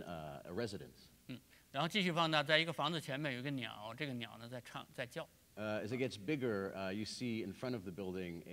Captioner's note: speaking in Chinese